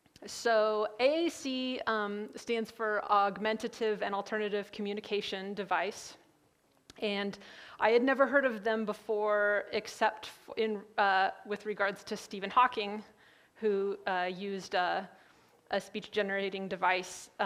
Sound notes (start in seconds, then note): none